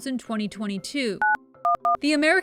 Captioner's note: phone beeping